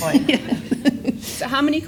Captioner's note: audience laughs